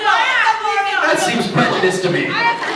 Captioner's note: fans in line riot; laughs